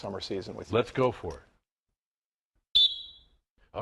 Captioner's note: �whistle blowing�